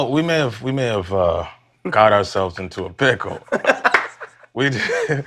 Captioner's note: laughing